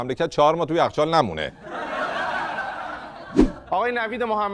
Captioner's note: laughter